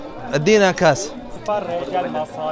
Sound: Arabic

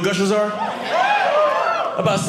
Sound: audience cheering

